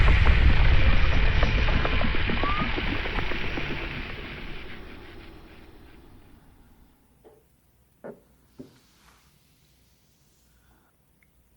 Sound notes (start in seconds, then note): 8.5 footsteps thumping